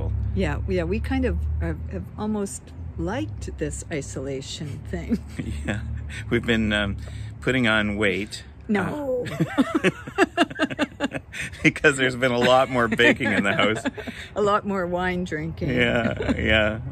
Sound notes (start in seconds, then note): 9.2 laughing